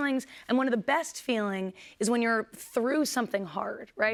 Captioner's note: none